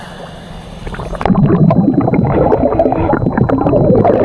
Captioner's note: water burbling